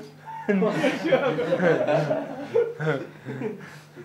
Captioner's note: laughter